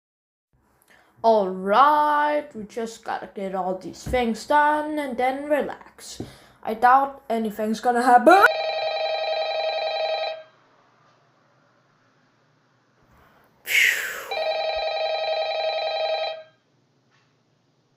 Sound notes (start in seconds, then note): 8.4 phone rings